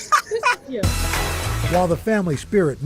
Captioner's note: laughter